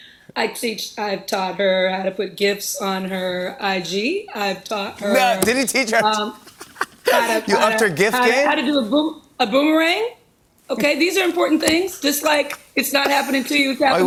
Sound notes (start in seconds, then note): 4.9 laughs